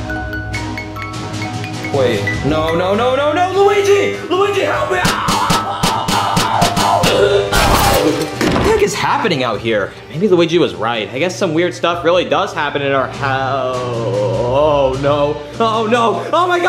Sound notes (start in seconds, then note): 0.3 dramatic music; 4.8 screaming